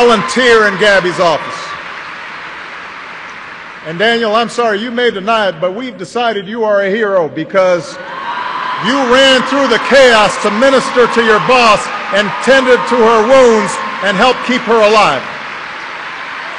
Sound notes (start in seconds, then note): 0.0 applause; 8.2 applause